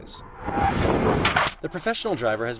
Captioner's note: tires screeching